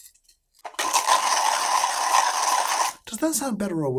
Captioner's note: coffee grinding